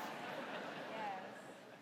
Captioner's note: audience laughing